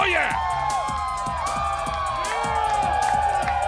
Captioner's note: crowd cheering